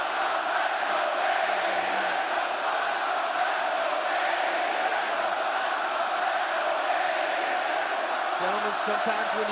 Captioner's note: crowd cheering